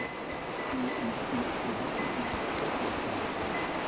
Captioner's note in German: Entfernte Kuhglocken